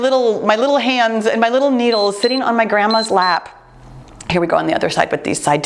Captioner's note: timer beeps